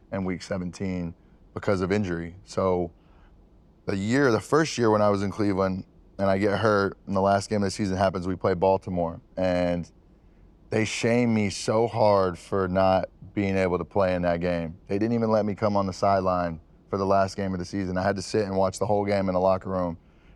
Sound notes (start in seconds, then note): none